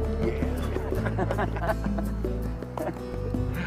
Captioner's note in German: Lachen